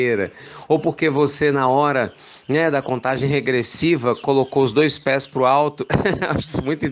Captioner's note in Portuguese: risos